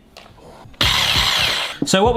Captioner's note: headwhisk whirs